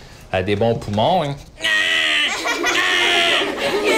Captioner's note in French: rires